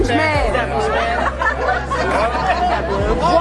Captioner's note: laughter